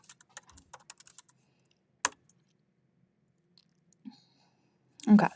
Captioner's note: keyboard clacking continues